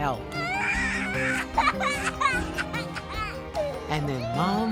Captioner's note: baby crying